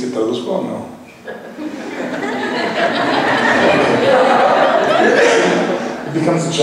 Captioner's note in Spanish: laughs